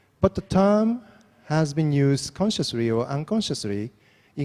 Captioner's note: none